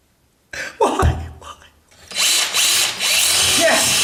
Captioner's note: fake crying